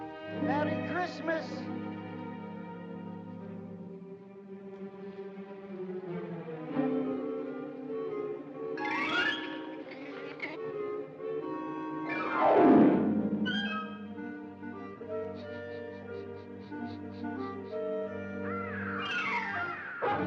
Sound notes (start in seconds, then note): 4.8 whimsical music; 8.8 Rupert chitters; 11.4 whimsical music; 15.2 sniffing sound; 18.4 bird squawks; 20.0 dog barking; 20.0 whimsical music